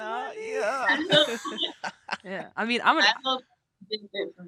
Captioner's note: both chuckling